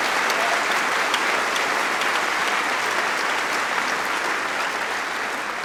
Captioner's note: applause